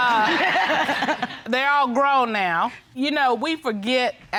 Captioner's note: audience laughing